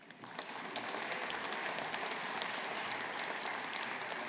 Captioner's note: audience applauding